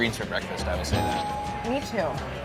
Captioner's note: bell dinging